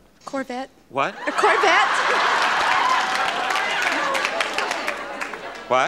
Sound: audience laughs and applauds

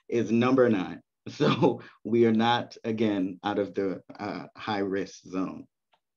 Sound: chuckles

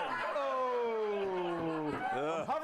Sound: laughter

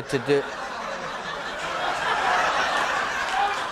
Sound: applause

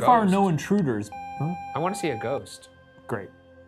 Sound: video game screen beeping

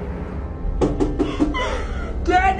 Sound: repeatedly knocking on the door

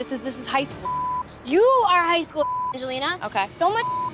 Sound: beep; beep

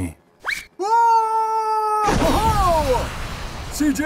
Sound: cries out, laughs

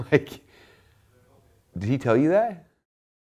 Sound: chuckling

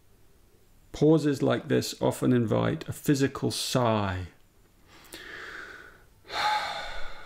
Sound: sighs

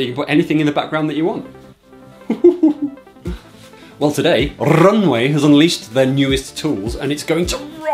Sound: giggles

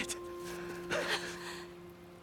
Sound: laugh

